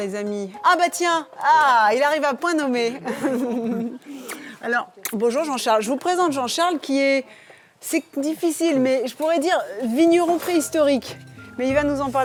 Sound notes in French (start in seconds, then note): 3.0 rires